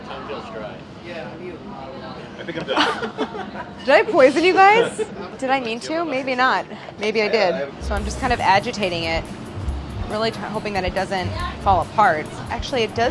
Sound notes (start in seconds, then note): 2.6 all laughing